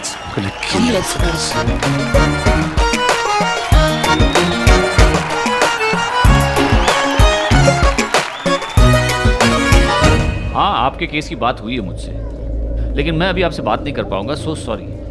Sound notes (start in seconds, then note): 3.6 Clapping